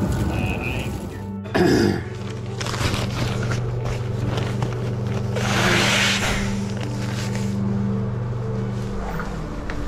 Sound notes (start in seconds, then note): 1.5 clearing throat; 5.4 blowing nose